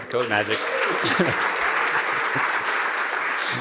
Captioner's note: applause